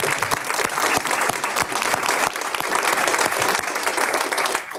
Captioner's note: audience applauds